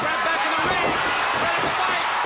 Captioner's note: crowd cheering